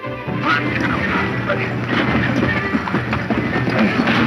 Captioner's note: men grunt